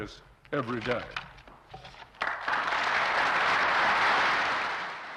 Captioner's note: applause